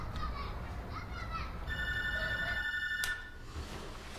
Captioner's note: doorbell ringing